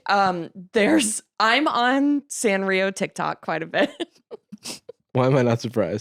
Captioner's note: laughs